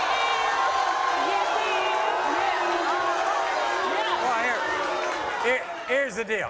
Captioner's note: audience booing